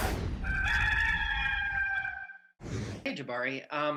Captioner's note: cock crowing